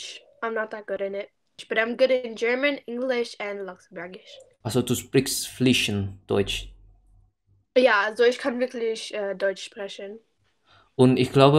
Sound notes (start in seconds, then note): 7.0 German